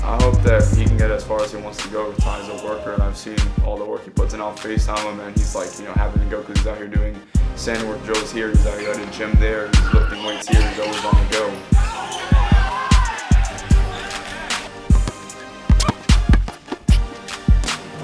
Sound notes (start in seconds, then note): 11.8 crowd cheering; 14.7 upbeat hip hop music